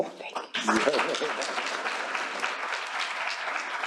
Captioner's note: applause